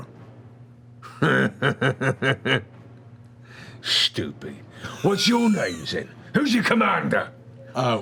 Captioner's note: laughs